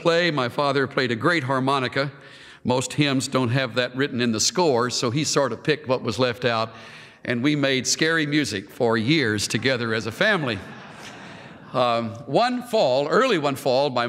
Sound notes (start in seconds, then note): 10.2 laughter